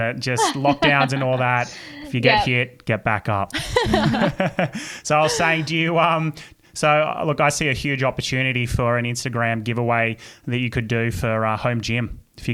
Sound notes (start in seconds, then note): 3.6 laughing